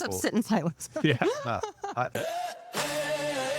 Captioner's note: laughing